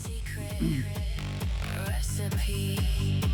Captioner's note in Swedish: harklar sig